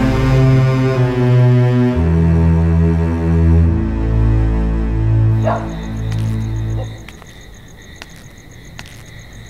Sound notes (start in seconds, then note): 5.4 Dog barking